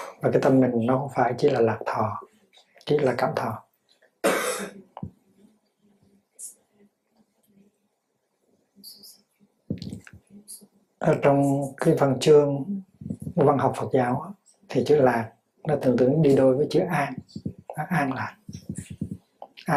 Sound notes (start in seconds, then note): 11.2 Vietnamese